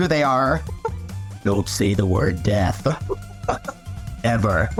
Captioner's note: deep grim reaper voice